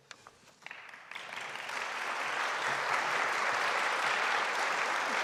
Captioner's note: audience applauding